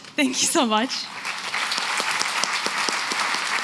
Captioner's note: applause